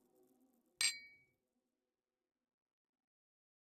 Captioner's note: glasses clinking